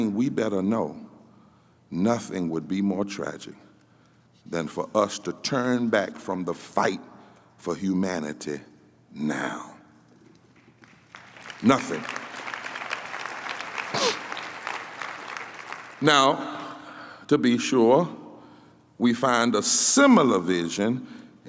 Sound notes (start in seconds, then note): 12.0 applause